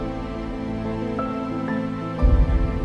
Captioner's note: suspenseful music; water bubbling; suspenseful music; water bubbling